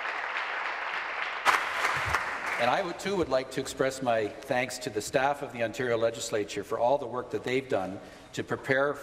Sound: applause

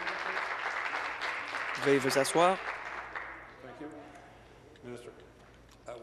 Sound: applause

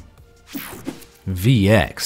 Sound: image whooshing

